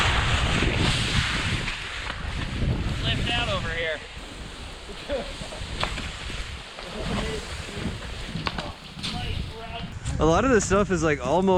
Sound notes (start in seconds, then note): 0.1 snow scraping; 6.8 knocking on trees